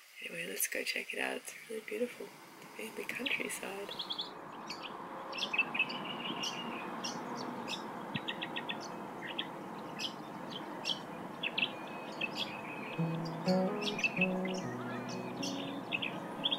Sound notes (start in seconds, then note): 4.8 birds singing; 13.0 gentle music